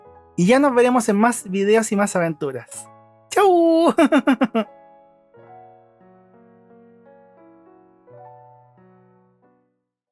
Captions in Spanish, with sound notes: y ya nos veremos en más videos y aventuras chau (risas)